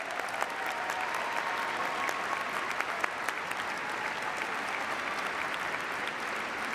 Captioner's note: applause